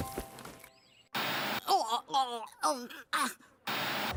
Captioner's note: Gwen Gagging